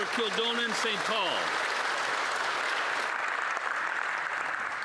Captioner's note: some Applause